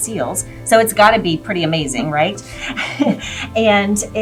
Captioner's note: chuckles